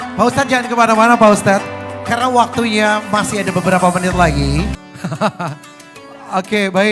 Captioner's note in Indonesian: tertawa